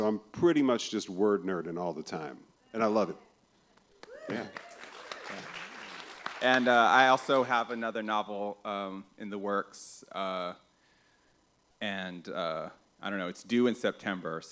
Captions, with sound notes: I'm pretty much just word-nerding all the time, and I love it. [applause] I also have another novel in the works. I don't know. It's due in September,